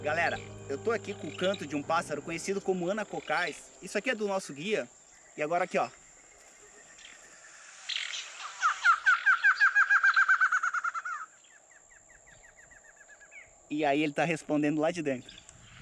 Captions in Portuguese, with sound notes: Galera, eu tô aqui com o canto de um pássaro conhecido como ana cocá - isso aqui é do nosso guia e agora aqui olha [ave cantando] E aí ele tá respondendo lá de dentro.